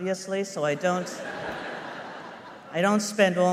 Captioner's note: laughter